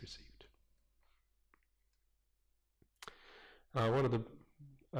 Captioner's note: pause